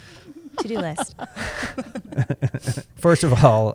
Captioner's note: laughter